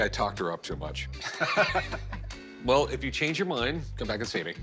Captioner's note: laughs